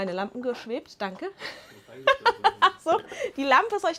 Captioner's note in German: gelächter